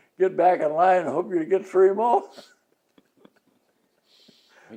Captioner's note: both laugh